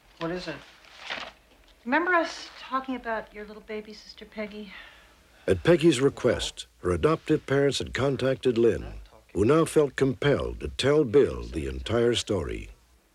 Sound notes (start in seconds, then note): none